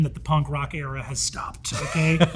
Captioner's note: Hank laughs